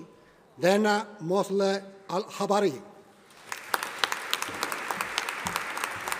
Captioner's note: audience applauding